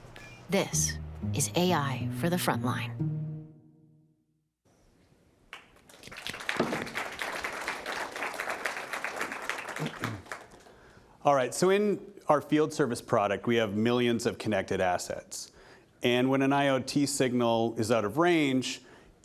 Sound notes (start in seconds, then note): 5.5 applause